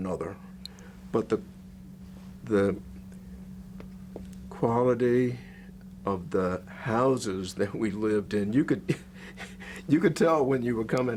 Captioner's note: laughs